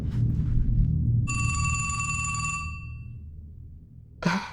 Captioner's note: phone ringing